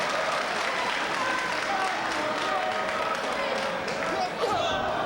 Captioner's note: audience applauding